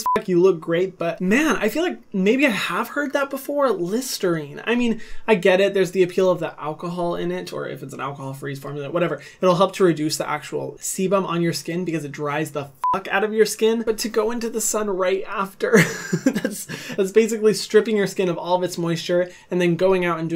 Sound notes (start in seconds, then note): 0.0 beep; 12.8 beep; 15.7 chuckles